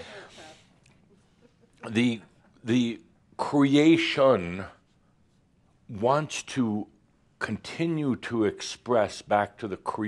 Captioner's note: some chuckles